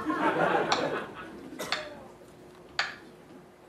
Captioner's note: slow clap